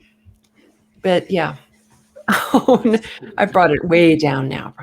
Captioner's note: laughs